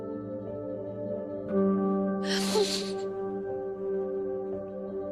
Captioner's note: crying